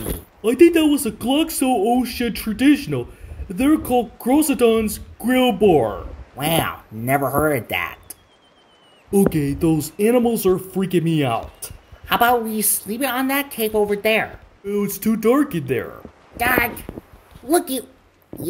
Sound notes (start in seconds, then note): 8.1 creatures squealing